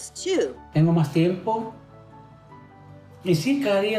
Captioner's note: speaks Spanish